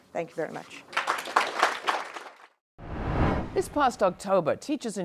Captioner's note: applause